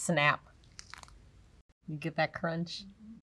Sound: chocolate crunches

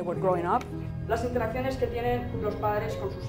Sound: teaching in Spanish

